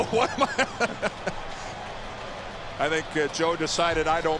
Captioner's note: laughs